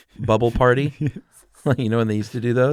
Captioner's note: laughter